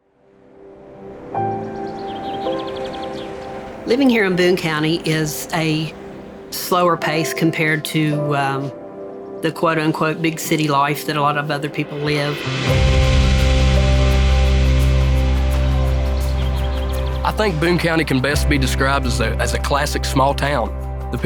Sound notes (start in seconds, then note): 0.2 birds chirping; 1.3 orchestral music playing; 12.6 birds chirping; 12.6 orchestral music playing